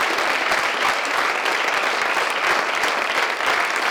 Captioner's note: applause